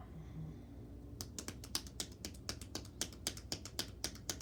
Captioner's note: hands tapping